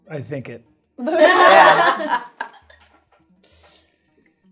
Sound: all laughing

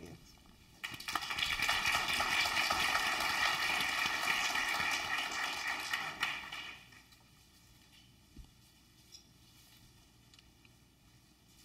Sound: applause

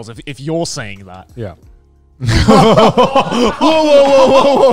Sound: all laughing

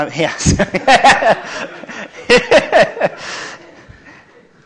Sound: laughter

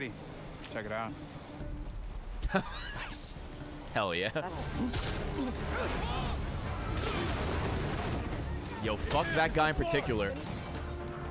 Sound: laughs

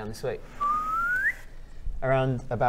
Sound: ascending whistle

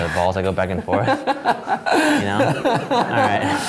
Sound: laughing

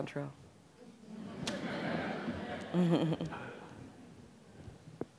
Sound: audience laughing

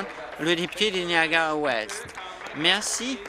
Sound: applause

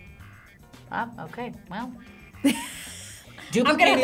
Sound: React laughs

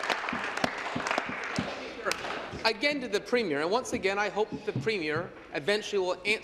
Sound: applause

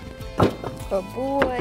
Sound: wood chunking in wagon

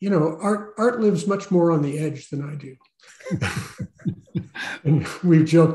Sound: laughs

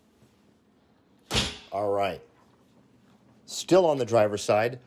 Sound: door thuds

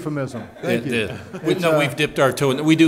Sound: laughing

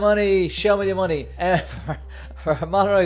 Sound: laughing

